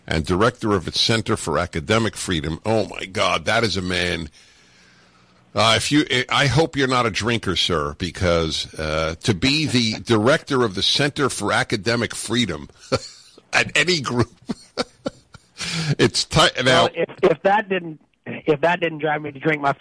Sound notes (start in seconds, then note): 14.0 laughing